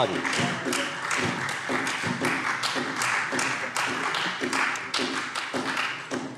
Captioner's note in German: Beifall Freie Demokraten und vereinzelt SPD